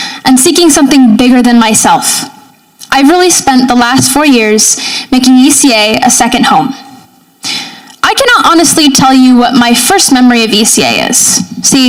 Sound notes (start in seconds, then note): none